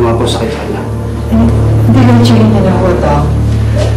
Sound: stammering

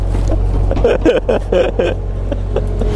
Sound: laughing

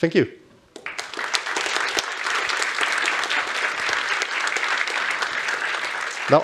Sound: applause

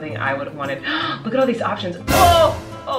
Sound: gasps

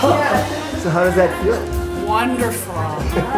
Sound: laughing

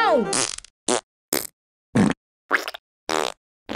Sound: farting

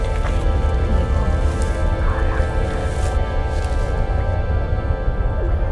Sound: space sounds

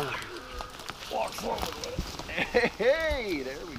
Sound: crunching grass

